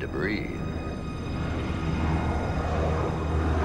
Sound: engine roaring; solemn music plays

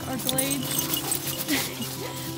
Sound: laughing

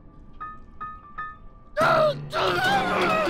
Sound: gasps

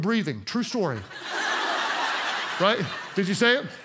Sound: congregation laughs

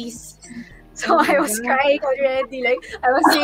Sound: laughing

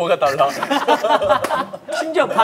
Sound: laughing

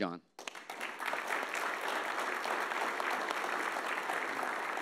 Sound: audience applauding

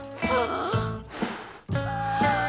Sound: huffing

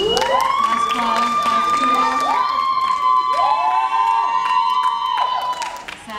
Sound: audience cheering and clapping

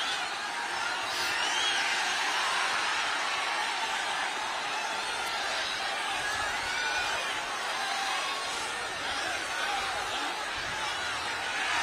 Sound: clapping

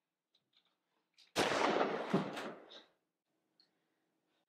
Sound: gun firing

